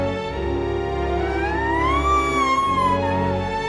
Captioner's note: screams